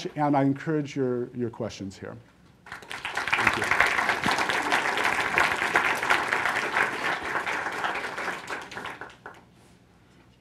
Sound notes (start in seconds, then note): 2.6 applause